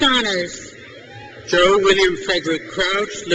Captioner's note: crowd cheers